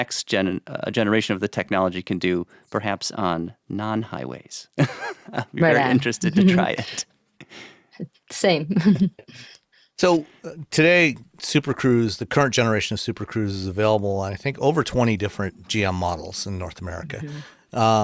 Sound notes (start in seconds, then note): 4.8 laughs; 8.7 chuckles